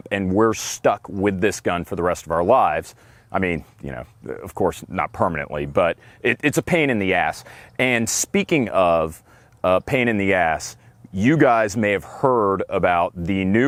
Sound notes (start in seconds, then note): none